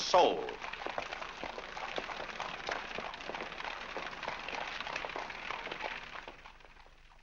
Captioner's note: hooves trotting